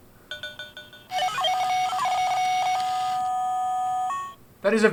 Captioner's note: electronic beeping noises